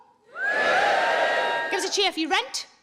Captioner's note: crowd cheering